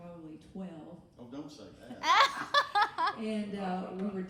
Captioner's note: laughing